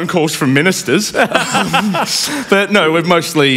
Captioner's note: laughter